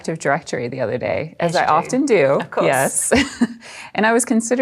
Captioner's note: laughs